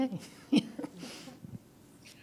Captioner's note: laugh